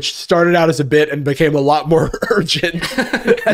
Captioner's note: laughing; laughs